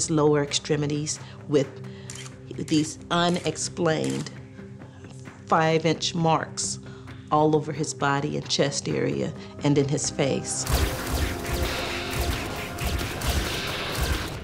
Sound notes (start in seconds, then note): 10.5 camera clicking